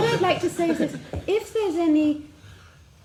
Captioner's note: laughs